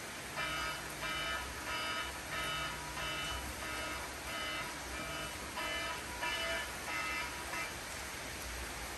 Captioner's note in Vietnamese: Tiếng chuông báo thức